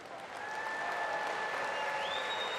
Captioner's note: applause